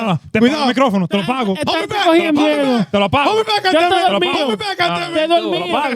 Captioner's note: speaking In Foreign Language